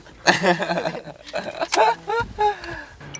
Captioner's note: laughing